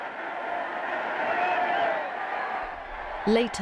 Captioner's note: crowds cheering